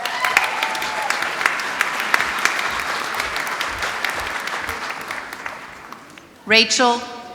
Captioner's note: applause